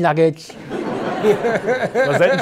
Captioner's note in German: Lachen